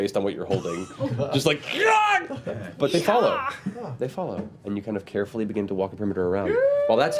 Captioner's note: yelps